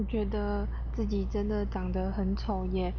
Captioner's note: speaking Chinese